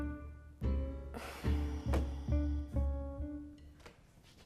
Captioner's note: sighing